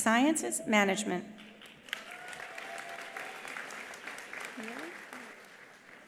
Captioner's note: attendees applauding; attendees cheering